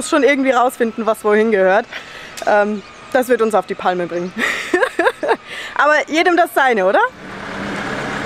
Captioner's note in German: Lachen